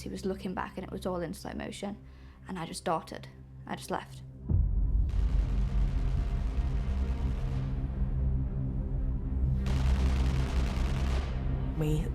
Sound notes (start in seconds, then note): 5.8 distant gun fires rapidly; 5.8 suspenseful music continues; 9.6 distant gun fires rapidly